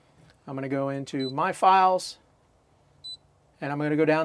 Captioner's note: beeping